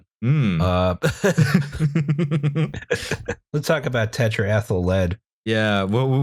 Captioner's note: laughter